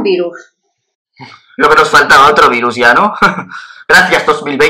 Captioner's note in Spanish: risa nerviosa